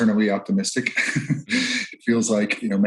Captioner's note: chuckles